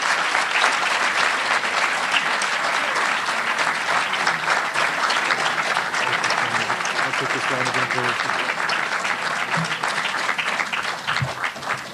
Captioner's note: applause